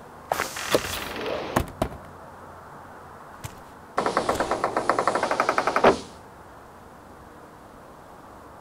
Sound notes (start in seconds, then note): 0.7 whoosh; 4.0 metallic clacking